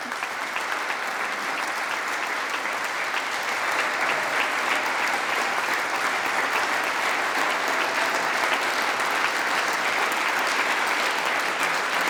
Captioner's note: applause